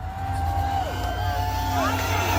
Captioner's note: screaming & Cheering